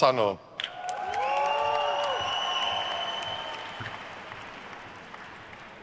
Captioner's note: attendees cheering and applauding